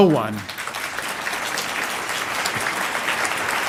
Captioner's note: applause